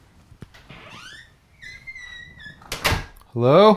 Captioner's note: door creaks